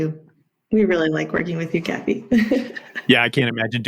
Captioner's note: laughs